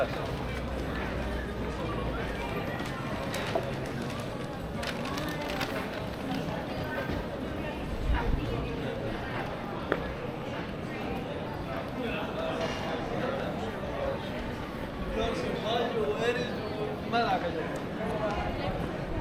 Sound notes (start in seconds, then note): 6.9 people chattering